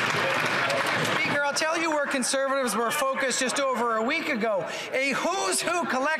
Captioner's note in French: applaudissements; voix de l'interprète